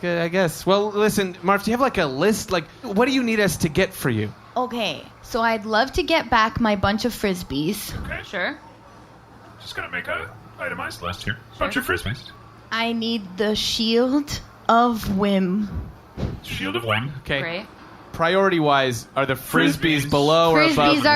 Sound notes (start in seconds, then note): none